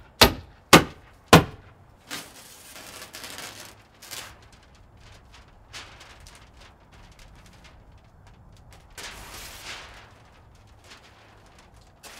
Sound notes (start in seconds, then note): 2.8 knife cutting plastic